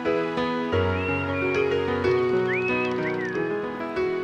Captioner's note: ਓਲੀ ਸੀਟੀ ਵਜਾਉਂਦਾ ਹੈ